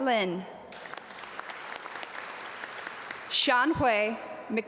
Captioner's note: audience applaud